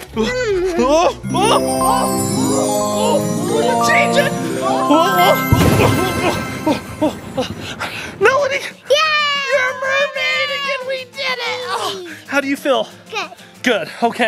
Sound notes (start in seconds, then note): 1.1 yells; 1.2 magical sparkling sound; 5.4 thunder zaps; 6.9 dad panting